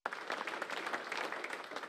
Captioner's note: nat of cheering